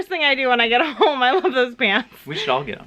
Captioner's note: laughs